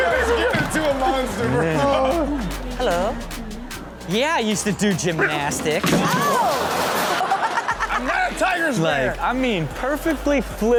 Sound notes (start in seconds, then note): 0.0 hosts and audience laugh; 4.4 audience reacts; 6.3 hosts laughs loudly